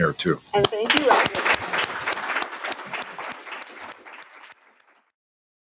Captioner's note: applause